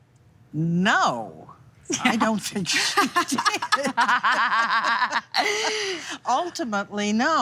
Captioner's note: all laughing